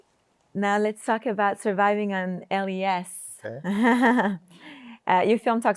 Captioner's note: chuckles